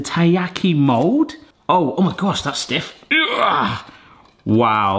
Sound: grunts

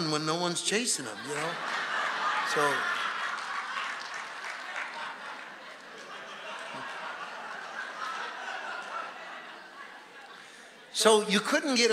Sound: congregation laughing

